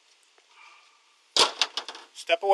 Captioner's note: hammer clatters